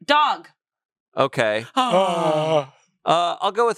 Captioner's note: pair sighs